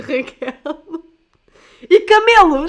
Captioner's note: laughs